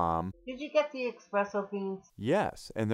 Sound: voiceover

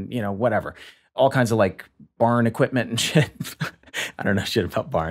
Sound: laughs

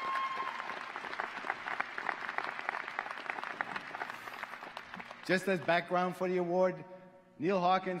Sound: applause

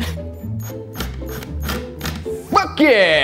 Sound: drill whirring sporadically

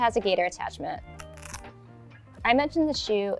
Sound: strap grating

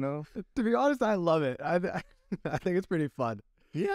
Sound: laughter

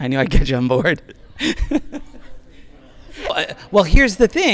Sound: laughing

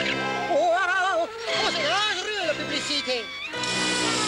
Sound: exclaims

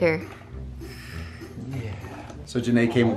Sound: breathes gently

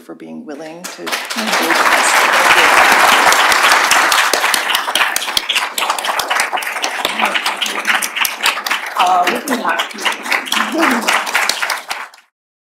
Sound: applause

